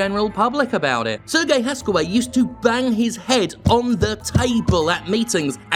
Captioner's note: taps for emphasis